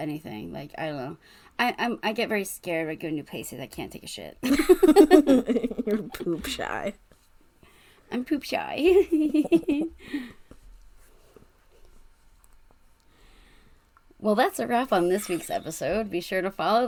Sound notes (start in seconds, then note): 4.5 laughs; 8.8 giggles